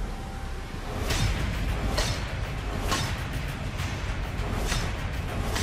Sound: slicing; tense music

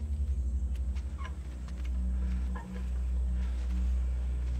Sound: ghostly screeches

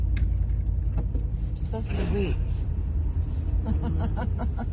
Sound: laughs

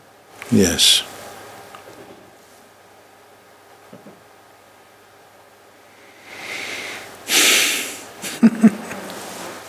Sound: laughs

